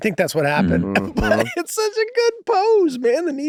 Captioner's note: Charlie laughing nostalgically